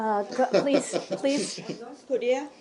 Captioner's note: laughter